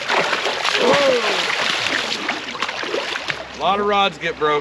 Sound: fish splashing

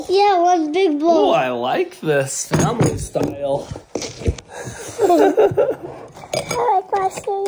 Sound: chuckles

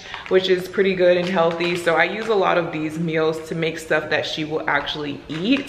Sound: none

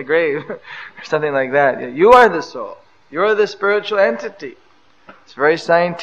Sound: laughs

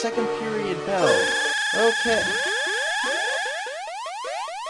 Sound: school bell rings

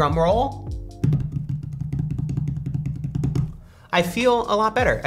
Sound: hands tapping table

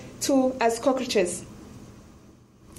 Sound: speaks in foreign language

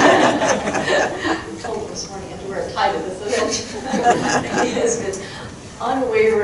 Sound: crowd laughing; crowd laughing

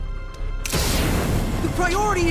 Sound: flames blazing

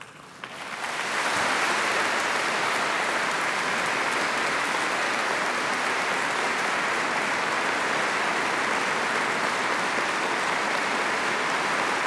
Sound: applause

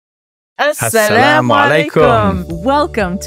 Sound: speaking in Arabic

